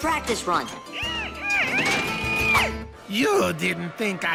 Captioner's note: grunting